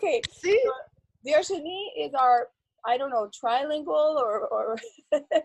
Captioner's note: laughs; laughs